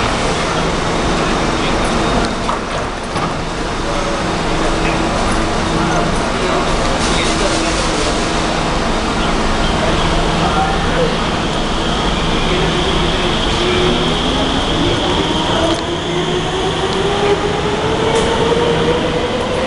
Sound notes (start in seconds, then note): 6.9 train air brake release; 9.1 train starts moving